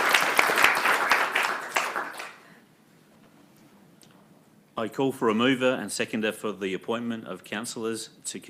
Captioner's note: applause